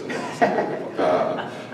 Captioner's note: laughter